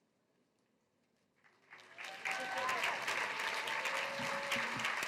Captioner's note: applause